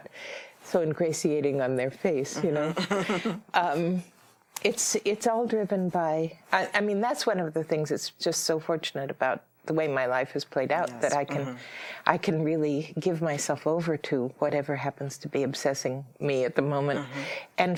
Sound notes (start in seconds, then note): 2.4 chuckles